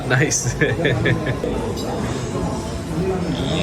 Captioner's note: laughing